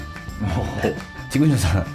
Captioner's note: laughs